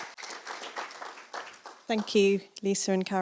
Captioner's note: round of applause